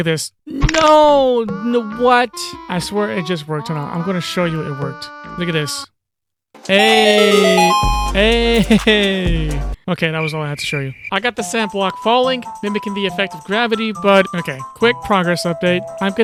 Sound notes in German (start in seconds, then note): 6.6 Feiergeräusche